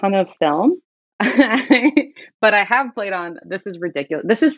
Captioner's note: laughter